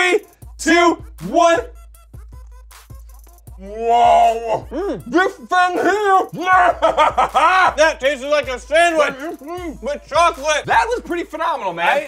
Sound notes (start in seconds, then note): 6.3 evil laugh